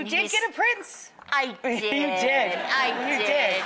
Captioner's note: audience laughs